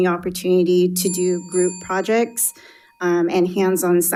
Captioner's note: bell dinging